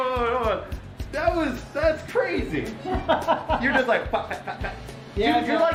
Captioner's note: laughter